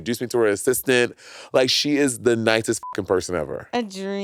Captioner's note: beep